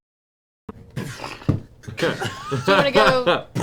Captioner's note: punching sounds